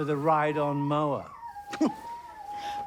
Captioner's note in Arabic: روبن تسخر